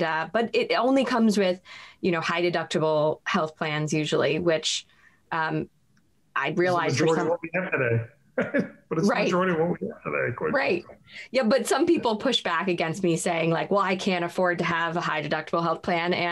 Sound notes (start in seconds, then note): 8.4 laughs